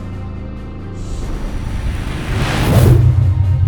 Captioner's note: zooming sound effect